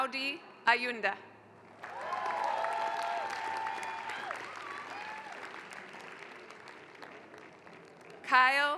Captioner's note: applause